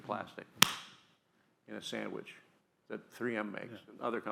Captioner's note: claps hands together